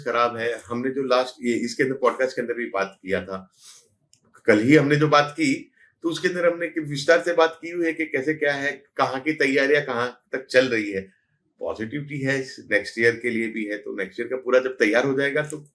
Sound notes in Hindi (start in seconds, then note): 4.2 नाक से की जाने वाली आवाज़